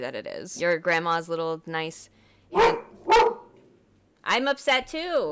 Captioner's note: my dog starts barking; barking